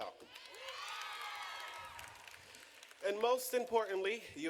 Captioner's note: audience cheering